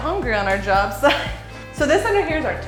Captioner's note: laughs